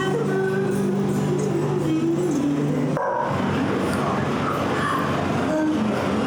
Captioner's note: none